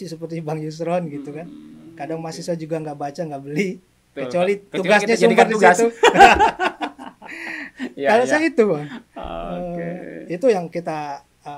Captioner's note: laughs